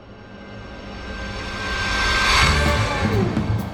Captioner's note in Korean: 빨려 들어가는 소리; ♬ 경쾌한 배경음악